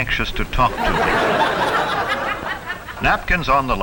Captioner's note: audience laughs loudly